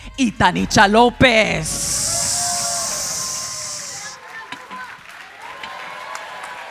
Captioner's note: audience cheering; audience applauding